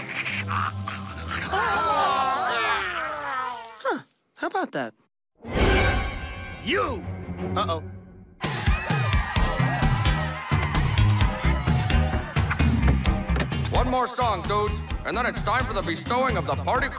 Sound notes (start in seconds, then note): 1.4 all groaning